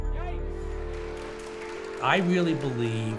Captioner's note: applause